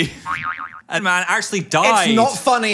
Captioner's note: spring boings